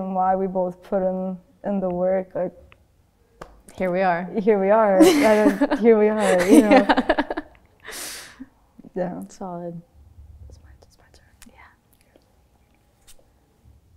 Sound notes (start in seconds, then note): 10.4 whispers